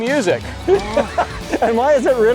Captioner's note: laughing